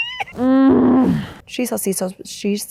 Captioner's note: woman groans